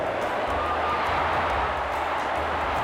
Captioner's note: cheering